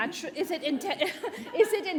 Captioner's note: audience laughing; laughs